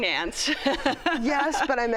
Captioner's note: laughs